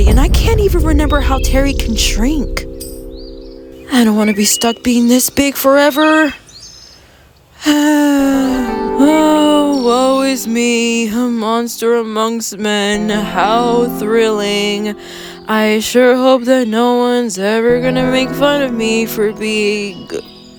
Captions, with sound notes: and I can't even remember how Terri can shrink (Booming thud) I don't wanna be stuck being this big forever. (heavy sigh) Oh, woe is me, a monster amongst men How thrilling. I sure hope that no one's ever gonna make fun of me for being-